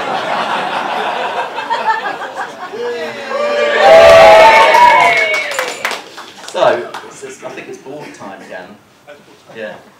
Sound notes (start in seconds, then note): 0.0 laughter; 2.7 cheering